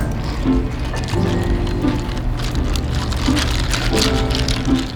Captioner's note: ice clicking against glass